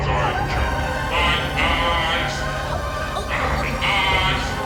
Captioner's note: Mia moaning; dramatic music